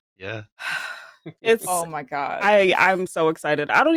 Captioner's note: sigh